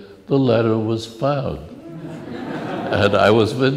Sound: laughs

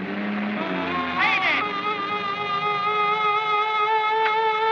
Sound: alarm Sounding

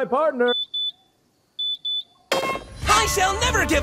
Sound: card beeping

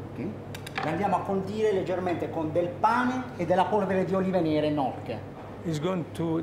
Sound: speaking Italian

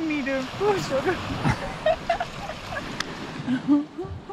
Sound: laughter

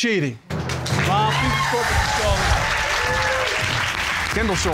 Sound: audience applauds

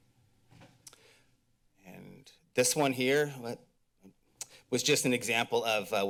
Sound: mouth clicks

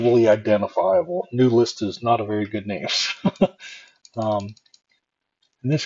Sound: chuckle

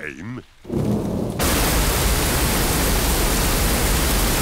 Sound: thunder rumbling

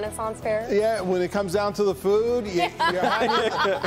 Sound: laughter

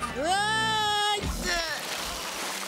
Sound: splash!

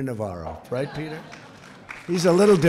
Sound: laughter

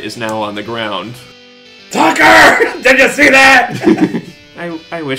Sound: laughing maniacally

